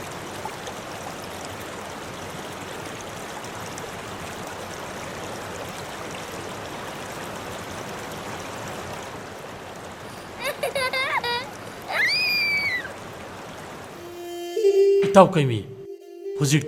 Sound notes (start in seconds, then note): 8.1 giggles